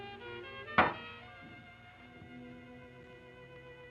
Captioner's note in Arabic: صوت ارتطام الزجاج; موسيقى حزينة